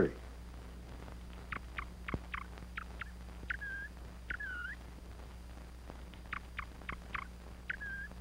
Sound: quail chirping

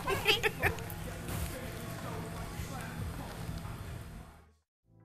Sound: woman laughing

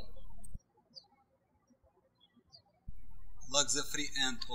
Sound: birds chirping

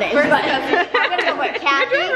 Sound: laughing

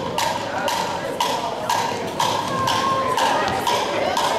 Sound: counting and Tapping

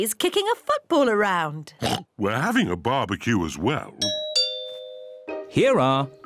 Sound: oinks; doorbell rings

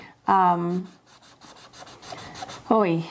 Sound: pen scribbling

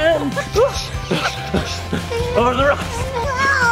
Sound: panting

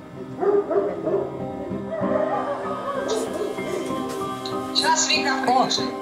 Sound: dog barking; on phone

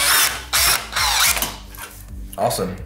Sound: drill screeching

